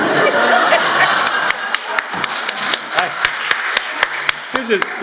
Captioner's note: laughter; applause